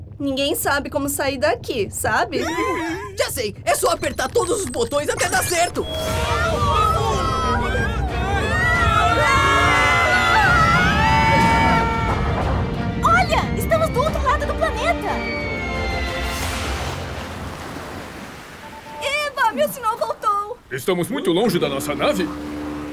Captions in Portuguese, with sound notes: Ninguém sabe como sair daqui, sabe? Já sei! É só apertar todos os botões até dar certo! NÃO, BONZO!!! Não, não! [gritos] Olha, estamos do outro lado do planeta. [splash!] Eba! O meu sinal voltou! Estamos muito longe da nossa nave?